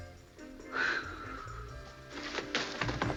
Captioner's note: sighs